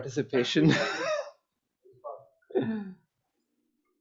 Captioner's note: laughs